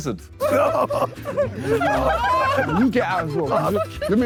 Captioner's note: Sidemen laugh